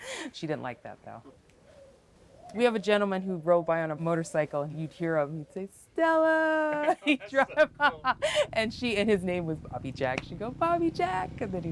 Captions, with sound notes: She didn't like that though. We have a gentleman who rode by on a motorcycle and you'd here him say "Stella!" he drove by. (laughs) And his name was Bobby Jack, she'd go "Bobby Jack!"